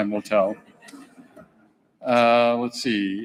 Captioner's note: people chuckling